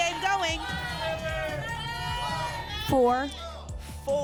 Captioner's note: audience shouting numbers